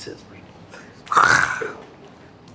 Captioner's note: snorts